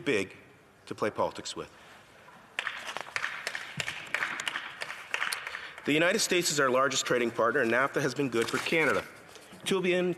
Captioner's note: some applause